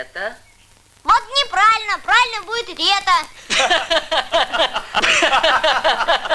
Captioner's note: loughter